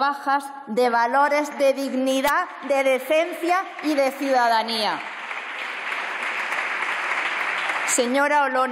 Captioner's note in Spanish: Aplausos